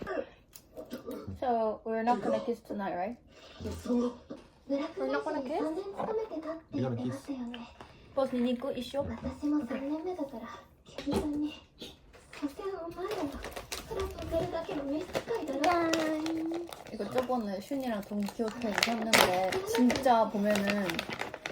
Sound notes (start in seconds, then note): 11.0 rummaging through the snack stash